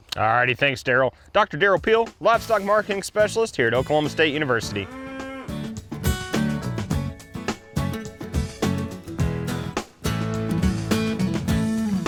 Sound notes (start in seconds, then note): 4.6 cow mooing; 5.5 bright upbeat music